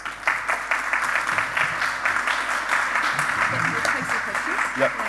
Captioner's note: applause